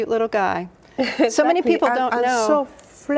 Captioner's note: laughs